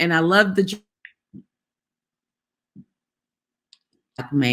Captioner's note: video frozen, no sound